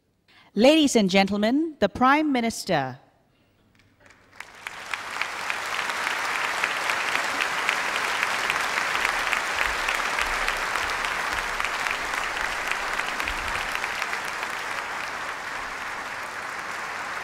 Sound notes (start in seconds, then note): 3.7 Applause